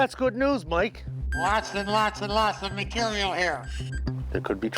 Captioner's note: speaking over radio